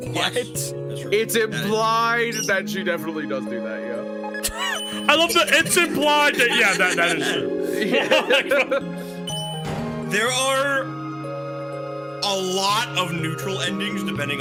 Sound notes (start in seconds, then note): 4.4 laughs